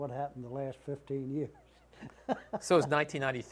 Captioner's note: laughter